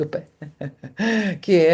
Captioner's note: laughter